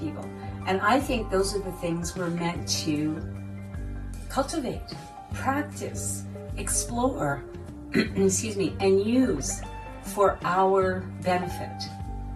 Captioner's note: cough